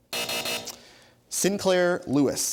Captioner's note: buzzer